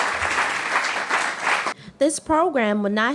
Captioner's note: applause